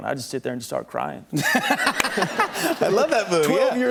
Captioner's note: laughter